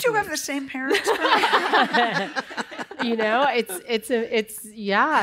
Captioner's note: laughter